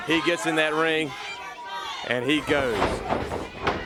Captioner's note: crowd chatter